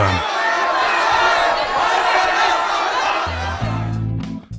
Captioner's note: sounds of angry protest